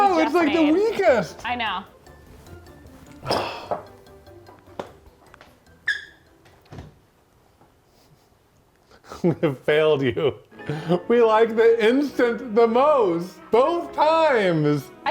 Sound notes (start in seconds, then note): 3.1 sighs; 5.8 shoes squeak; 9.0 laughs